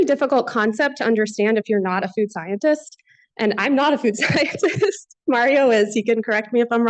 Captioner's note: laughs